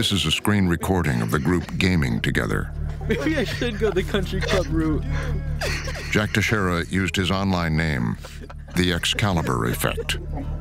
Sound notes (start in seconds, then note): 2.8 laughing